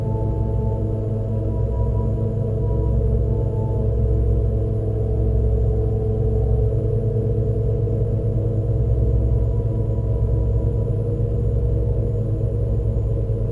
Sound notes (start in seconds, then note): none